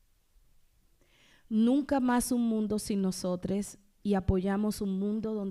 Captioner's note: speaking spanish